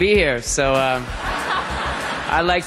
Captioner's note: crowd laughing